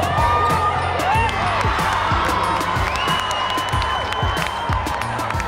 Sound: cheers and applause

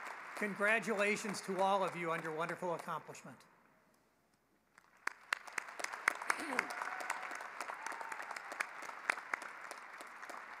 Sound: cheering and applause

